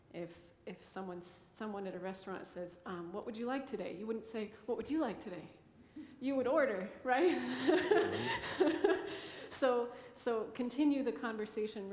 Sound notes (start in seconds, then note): 7.5 laughs